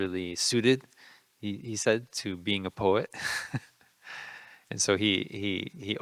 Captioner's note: laughing